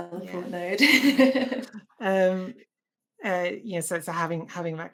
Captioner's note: laughs